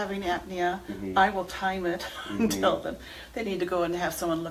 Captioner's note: laughs